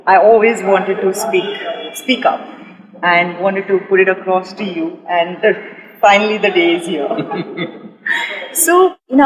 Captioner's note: laughter